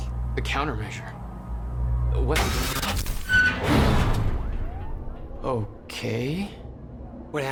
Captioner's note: another stutter occurs